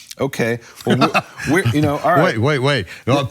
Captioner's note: laughs